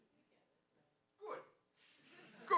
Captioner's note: woman speaking faintly